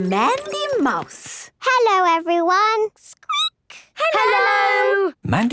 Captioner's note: squeaking